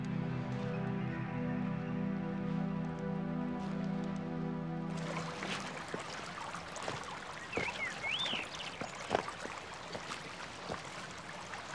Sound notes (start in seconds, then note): 0.0 gentle dramatic music; 4.9 water rushing lightly; 8.5 birds chirp